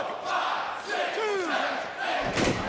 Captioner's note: crowd cheering